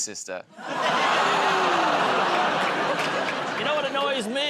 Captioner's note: audience groans